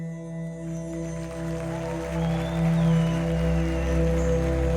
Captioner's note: audience applauding